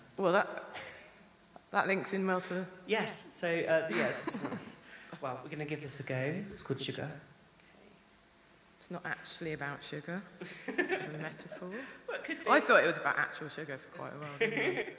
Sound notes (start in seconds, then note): 3.9 laughs; 10.4 laughter